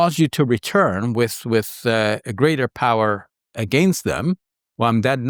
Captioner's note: speaks in Arabic